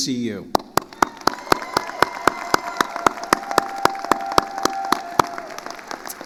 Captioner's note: attendees cheering and applauding